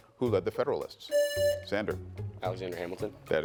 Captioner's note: buzzer buzzing